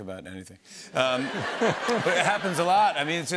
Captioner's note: laughter